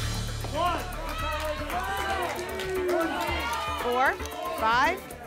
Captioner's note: audience shouting numbers